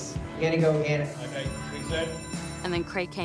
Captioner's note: bell rings